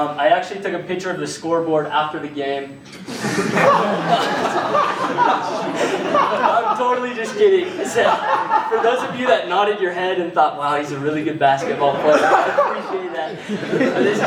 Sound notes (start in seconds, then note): 3.0 laughter